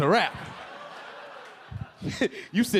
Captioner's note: audience laughing; LilRel laughing